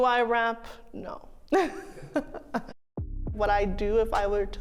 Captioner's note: laughs softly